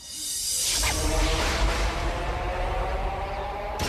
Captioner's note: swirling, thunder